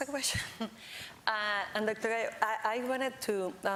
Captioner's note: laughs